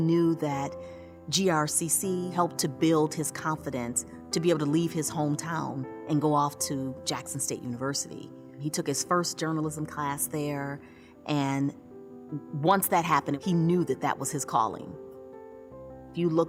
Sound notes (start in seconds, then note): none